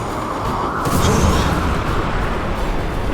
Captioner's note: wind blowing